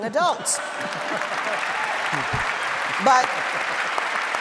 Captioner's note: audience cheering